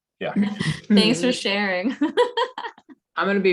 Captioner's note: laughs